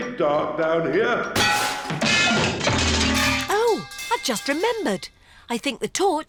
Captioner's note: clanging and crashing